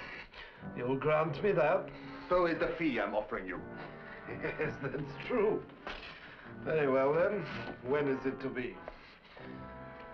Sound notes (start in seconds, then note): 3.8 laughing